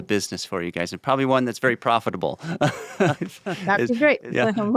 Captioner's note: laughs